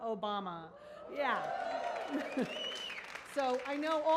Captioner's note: audience cheers